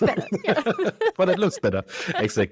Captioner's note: both laugh